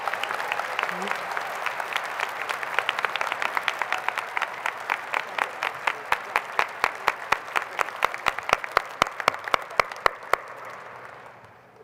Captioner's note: applause